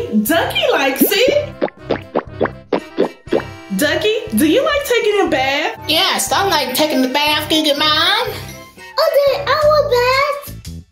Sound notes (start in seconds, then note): 2.7 wash cloth squishing